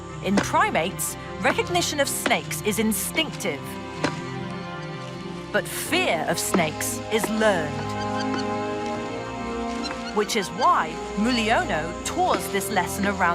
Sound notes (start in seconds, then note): 0.0 wooden stick hitting rubber snake; 7.1 orangutan squeaking; 8.4 dramatic music